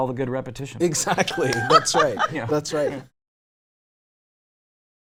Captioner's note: laughs